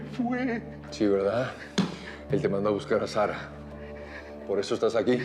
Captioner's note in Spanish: solloza